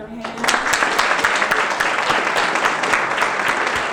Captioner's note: audience clapping